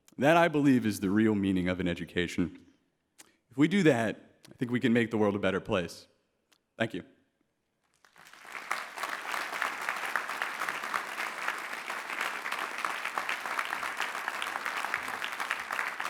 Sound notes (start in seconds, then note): 7.9 clapping